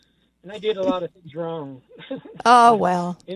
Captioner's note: laughs